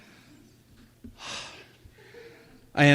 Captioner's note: sighs